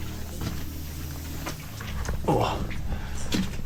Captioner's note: boots splashing